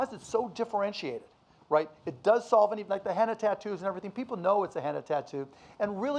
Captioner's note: none